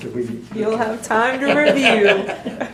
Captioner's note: laughs